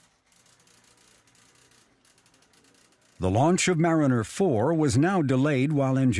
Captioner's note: printer whirring